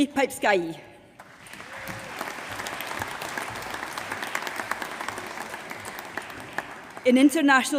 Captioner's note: applause